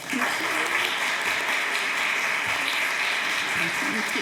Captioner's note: applause